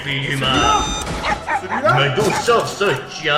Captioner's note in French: Aboiements